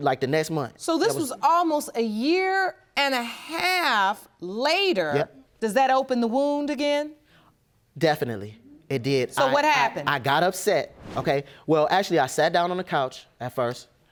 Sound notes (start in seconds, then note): 9.0 stuttering